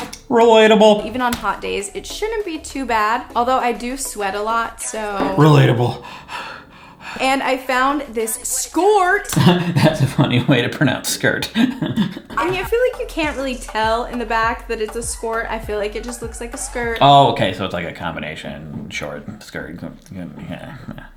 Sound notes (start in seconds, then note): 5.3 breathes heavily; 11.3 laughs